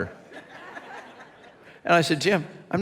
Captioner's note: congregation laughs